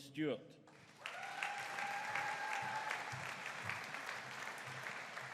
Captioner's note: audience cheering